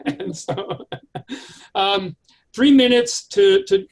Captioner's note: chuckles